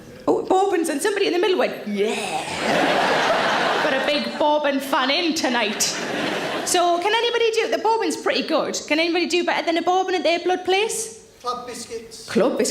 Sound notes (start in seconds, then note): 2.4 audience laughing